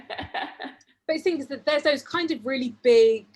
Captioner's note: laughs